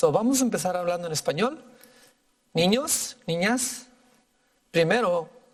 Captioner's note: speaking in foreign language